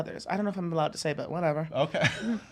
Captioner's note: laughs